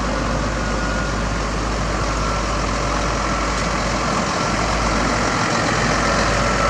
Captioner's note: truck rev